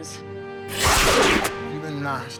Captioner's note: D'Argo hisses